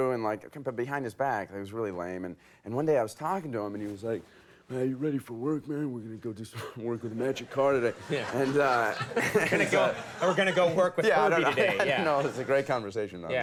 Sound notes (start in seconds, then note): 7.8 audience laughing; 11.4 laughs